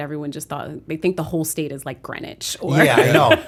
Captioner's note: laughter